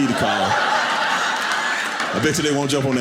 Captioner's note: audience laughing